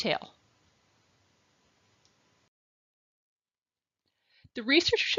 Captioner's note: silence